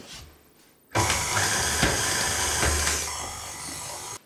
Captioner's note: machine whirrin